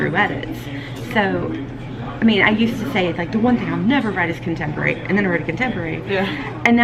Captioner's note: laughing